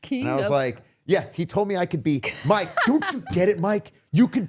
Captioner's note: podcaster laughing